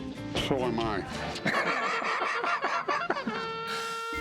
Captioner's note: laughter